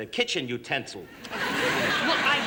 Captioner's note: laughter